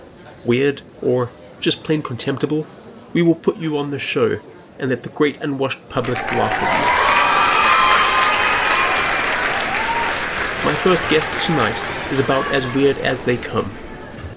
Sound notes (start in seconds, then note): 5.9 cheering